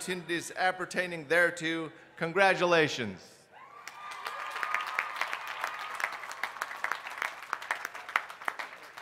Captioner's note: applause